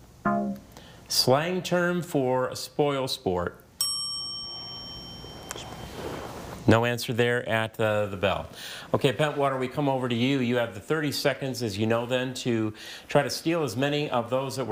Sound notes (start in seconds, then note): 0.2 text buzzing; 3.8 bell dinging